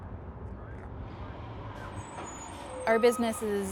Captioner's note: monorail passing